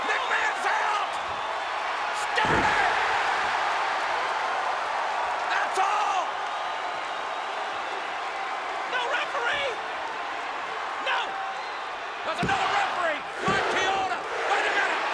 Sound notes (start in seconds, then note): 3.1 audience cheers